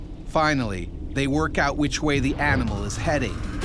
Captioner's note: voiceover